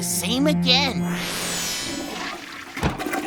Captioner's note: toilet flushes